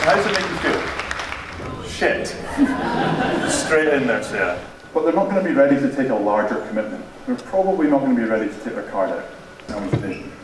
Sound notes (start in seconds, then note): 0.0 audience laughing